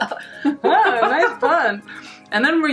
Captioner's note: laughing